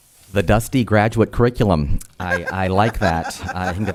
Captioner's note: audience laughter